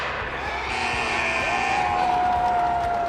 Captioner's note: buzzer buzzes